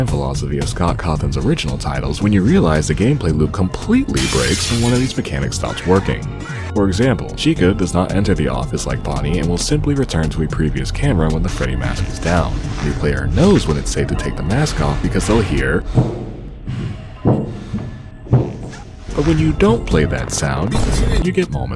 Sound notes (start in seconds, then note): 17.5 insert vent sounds